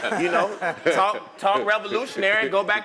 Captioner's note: laugh